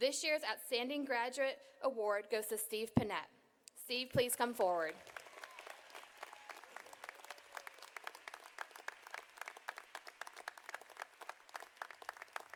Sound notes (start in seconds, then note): 4.9 audience applauding